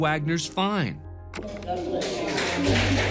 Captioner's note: clapping